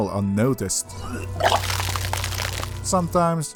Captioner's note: hurling violently